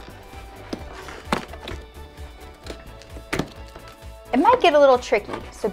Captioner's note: box crunches